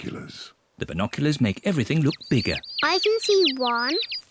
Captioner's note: chirping